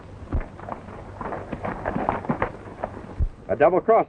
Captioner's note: horses galloping